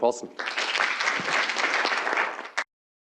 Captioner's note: applause